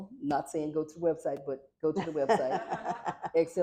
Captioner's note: laughter